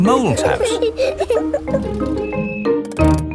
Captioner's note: children giggling